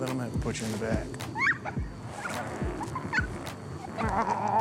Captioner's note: laughing